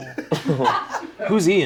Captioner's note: all laugh